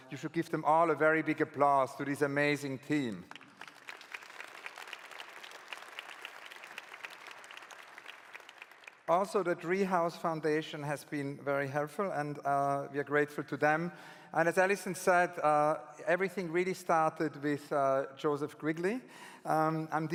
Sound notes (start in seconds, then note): 3.2 claps